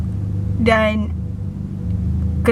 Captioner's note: none